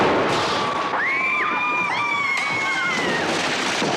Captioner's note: screaming